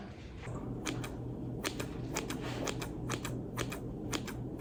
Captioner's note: scissors clicking